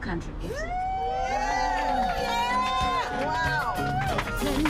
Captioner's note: cheers and applause